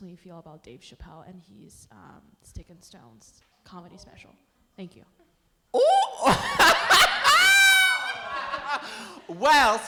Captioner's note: laughter